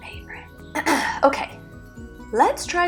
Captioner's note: clears throat